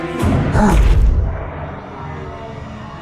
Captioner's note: questioning grunt